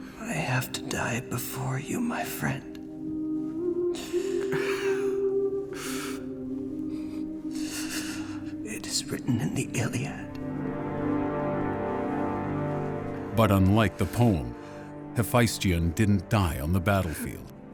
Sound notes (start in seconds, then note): 3.6 sobbing; 7.5 gasping